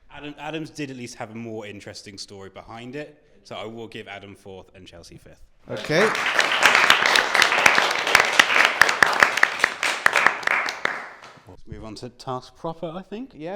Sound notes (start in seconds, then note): 5.7 applause